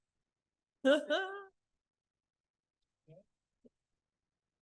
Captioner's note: chuckles